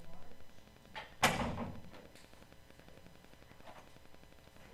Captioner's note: door closes